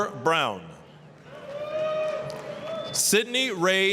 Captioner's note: applause, cheering